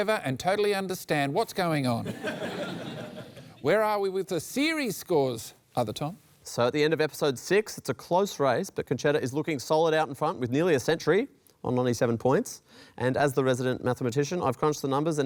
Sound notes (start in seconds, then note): 2.0 laughter